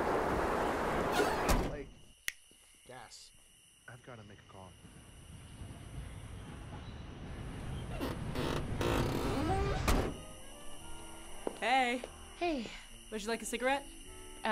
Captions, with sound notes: >> like [finger snap] Gas >> I've got to make a call. >> Hey. >> Hey, >> would you like a cigarette? >> Uh, no, thanks.